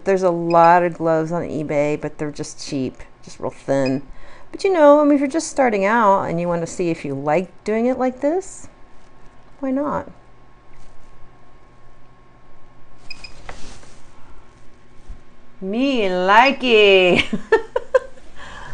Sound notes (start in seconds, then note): 13.1 quiet beeps; 17.2 laughs